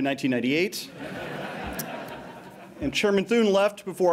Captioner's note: laughter